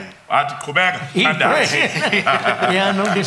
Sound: laughter

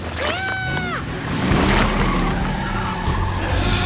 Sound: screams; engines revving; tires screeching; dinosaur roars

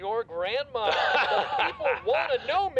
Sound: ragged Man laughs

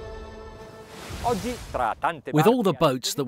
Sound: speaking in foreign language

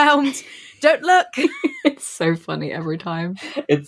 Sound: laughs

